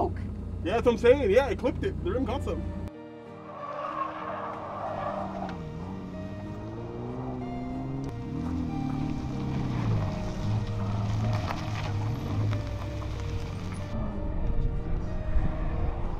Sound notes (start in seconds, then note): 3.5 tires screeching; 6.1 engine roaring; 9.2 soft electronic music